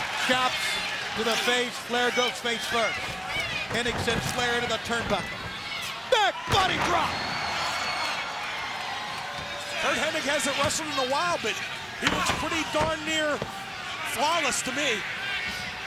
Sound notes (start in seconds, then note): 0.0 crowd cheering; 7.0 body thudding; 7.8 crowd cheering